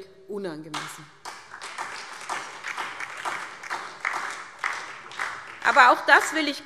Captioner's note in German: Beifall SPD und DIE LINKE